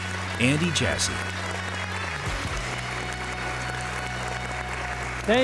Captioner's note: applause